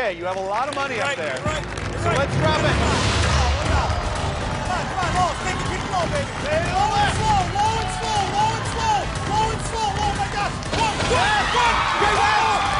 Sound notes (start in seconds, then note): 8.3 cheers and applause